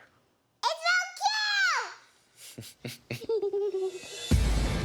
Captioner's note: laughs